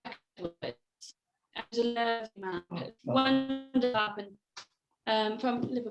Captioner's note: connection drops, sound distorts